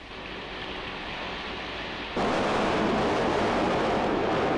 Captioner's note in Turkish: Şiddetli yağmur ve gök gürültüsü ses